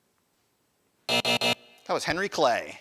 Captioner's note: buzzer buzzing